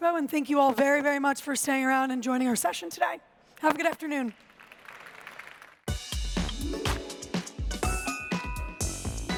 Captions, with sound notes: and thank you all very, very much for staying around and joining our session today. Have a good afternoon. [APPLAUSE]